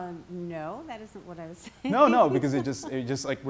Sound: laughs

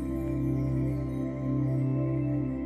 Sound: wind and music

